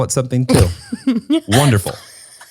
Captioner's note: laughs